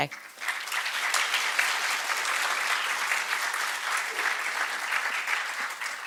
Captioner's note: applause